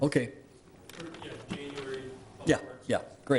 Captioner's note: pat